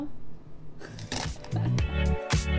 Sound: laughs

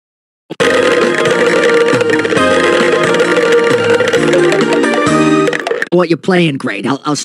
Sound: balls juggled

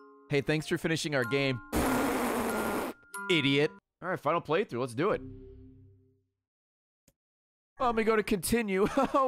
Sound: raspberry noise

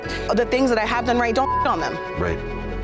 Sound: beep

